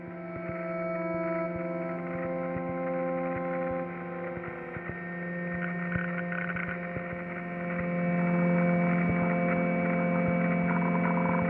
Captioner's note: clicking sound